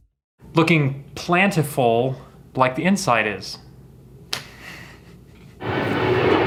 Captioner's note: chuckles; plane engine rumbling